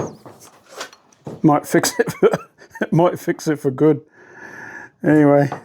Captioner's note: laughing